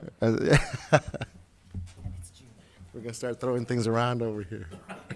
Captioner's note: laughs